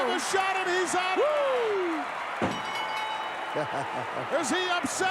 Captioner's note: bell chimes